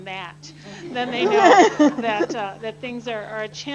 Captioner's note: laughter